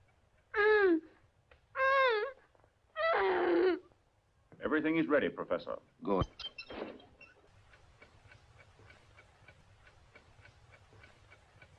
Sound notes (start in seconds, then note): 0.7 moaning; 7.1 clock ticking